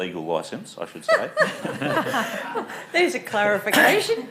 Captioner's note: laughing